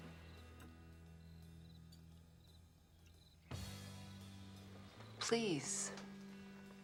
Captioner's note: insects chirping; dramatic music